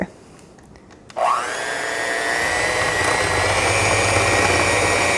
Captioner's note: hand mixer revving